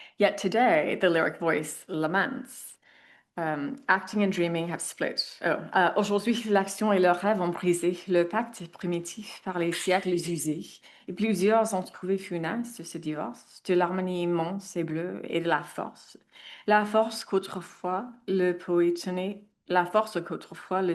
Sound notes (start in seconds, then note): 6.1 speaks in French; 16.8 speaks in French